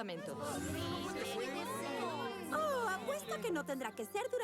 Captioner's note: loud complaining